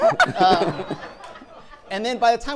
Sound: audience laughing

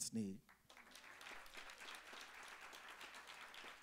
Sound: applause

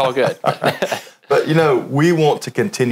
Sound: laughs

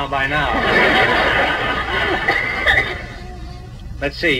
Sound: audience laughs

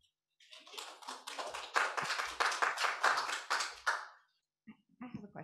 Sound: applause

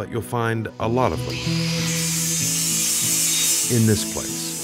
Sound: tool grinding

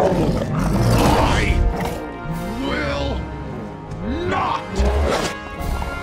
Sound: straining

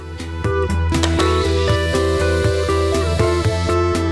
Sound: angle grinding

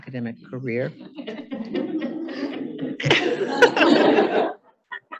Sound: audience laughing

